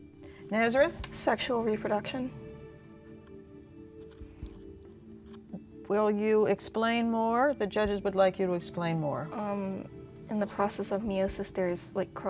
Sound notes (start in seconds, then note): 2.3 dinging